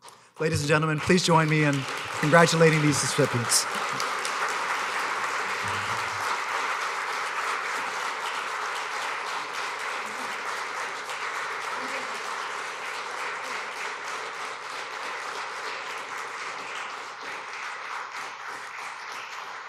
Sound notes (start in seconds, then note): 4.2 applause; 13.7 applause